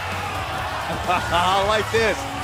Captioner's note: laughing